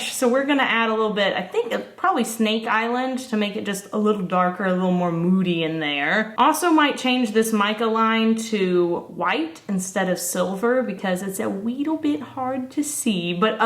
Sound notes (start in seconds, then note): none